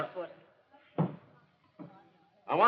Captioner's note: footsteps